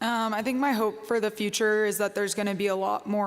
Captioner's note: none